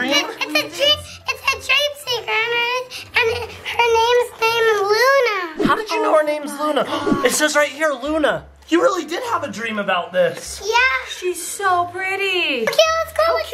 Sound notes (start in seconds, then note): 7.9 gasps